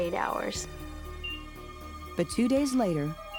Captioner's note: heart monitor beeping